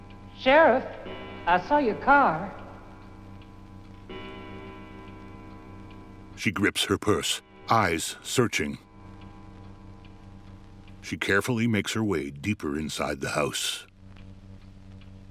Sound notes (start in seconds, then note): 3.0 chiming continues; 6.4 clock ticking